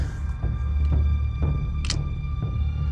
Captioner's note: pistol cocks